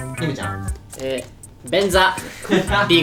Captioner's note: laughs